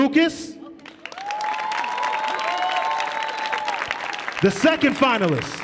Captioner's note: audience cheering